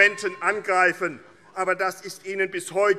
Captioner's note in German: Fortgesetzt Zurufe - Glockenzeichen